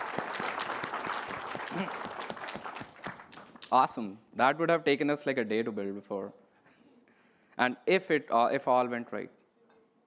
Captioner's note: applause